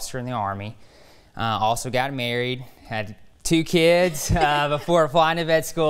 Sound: laughs

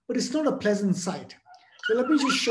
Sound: dog squealing

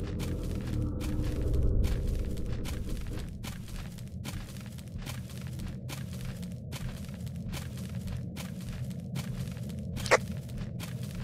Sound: grass sounding footsteps

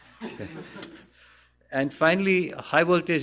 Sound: laughter

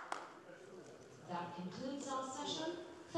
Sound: applause

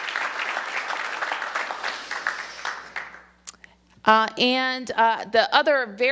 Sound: applause

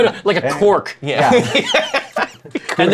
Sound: laughter

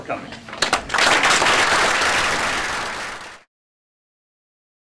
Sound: applause

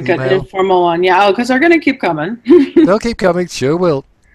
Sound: chuckles

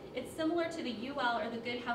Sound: none

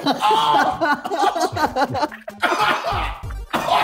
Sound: men laughing

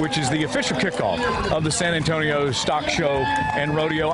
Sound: cheering

